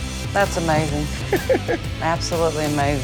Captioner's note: laughs